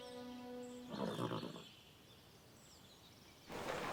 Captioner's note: horse neighing; horse snorting